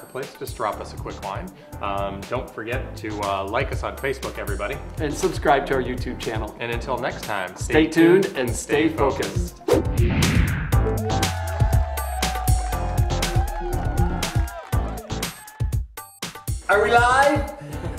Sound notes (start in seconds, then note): 9.9 upbeat music; 10.8 crowd cheering